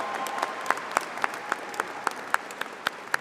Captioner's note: applause